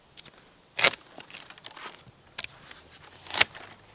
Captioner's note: cracking